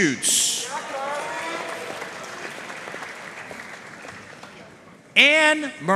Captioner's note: audience cheering and applauding